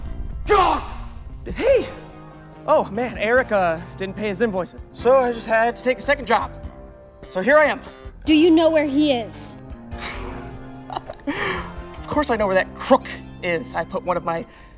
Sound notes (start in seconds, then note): 10.0 laughs